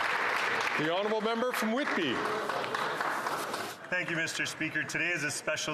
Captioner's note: applause